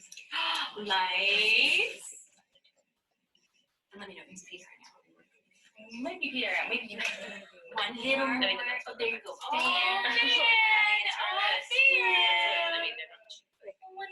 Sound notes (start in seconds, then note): 5.4 voice fades; 10.6 exclaiming